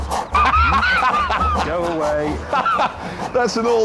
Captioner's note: jeremy laughs